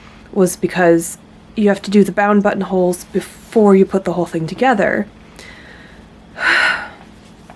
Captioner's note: sigh